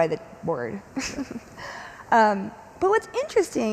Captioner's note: chuckles